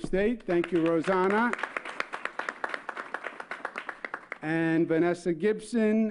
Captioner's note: applause